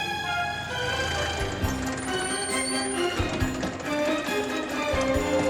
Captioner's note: dramatic music; car engine revving